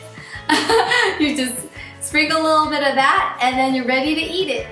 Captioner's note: laughs